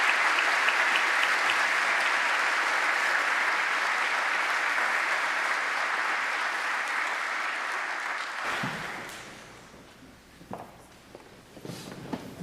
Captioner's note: applause